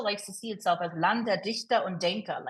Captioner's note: speaking in foreign language